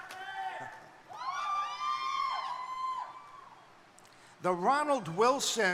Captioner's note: crowd cheering